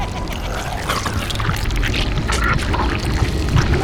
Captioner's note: Orange laughing; goop squelching